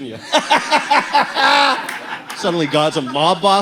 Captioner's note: demeaning laugh